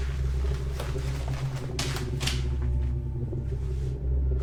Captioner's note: jacket rustling